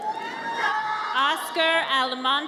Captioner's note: audience cheers